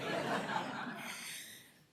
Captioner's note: laughter